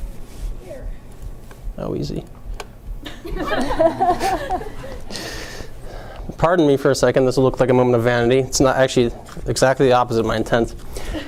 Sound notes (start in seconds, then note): 3.1 audience laughing